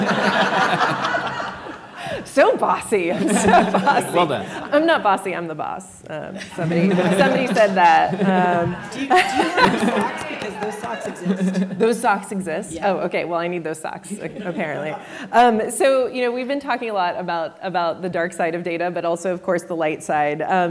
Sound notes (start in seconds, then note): 0.0 audience laughs; 6.4 audience laughs